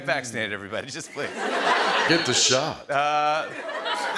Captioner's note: laughter and applause; sultry voice; laughter